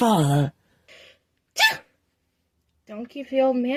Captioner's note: sneezes